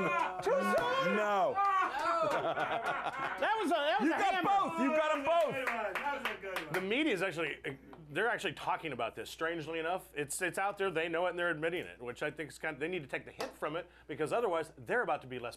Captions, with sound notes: - WHAT, TOO SOON? TOO SOON? - NO. YOU GOT 'EM BOTH, YOU GOT 'EM BOTH. [Scattered applause] - THE MEDIA'S ACTUALLY, THEY'RE ACTUALLY TALKING ABOUT THIS. STRANGELY ENOUGH. IT'S OUT THERE, THEY KNOW IT AND THEY'RE ADMITTING IT, WHICH I THINK IS KIND OF, THEY NEED TO TAKE THE HIT FROM IT,